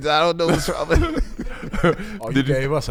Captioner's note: laughing